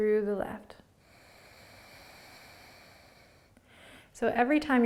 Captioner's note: exhaling